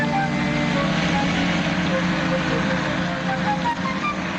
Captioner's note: engine roaring